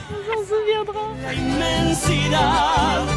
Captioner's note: laughs